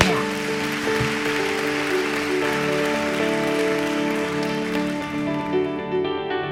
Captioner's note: audience applauds; light music